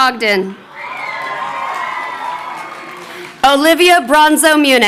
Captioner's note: crowd cheering